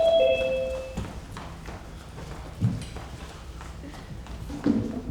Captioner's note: light beeps; footsteps stomping